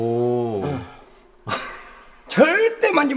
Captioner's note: chuckles